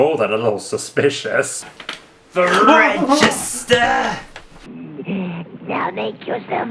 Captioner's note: screams in terror